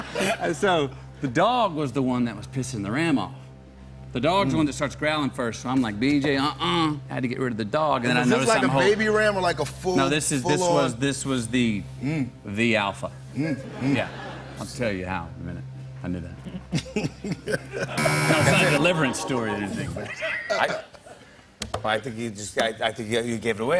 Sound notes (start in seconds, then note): 16.4 laughs; 17.9 buzzer